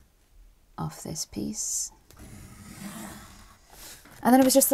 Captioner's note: pencil scratches